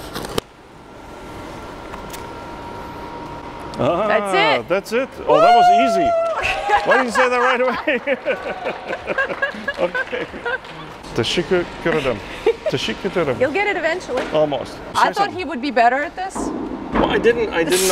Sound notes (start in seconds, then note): 1.4 welding noise; 8.0 cheering; 9.5 laughing; 10.9 clapping